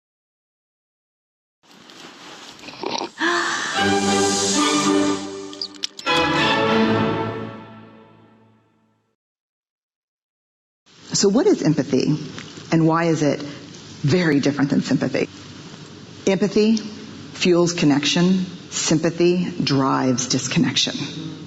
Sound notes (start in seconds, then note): 2.6 gasps; 3.3 dramatic music